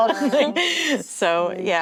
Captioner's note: giggling